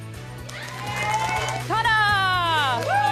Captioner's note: applause